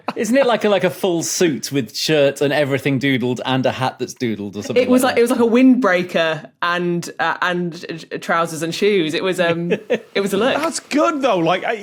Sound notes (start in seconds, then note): 9.3 giggles